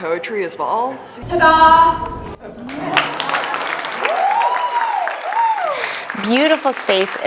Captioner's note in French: Applaudissements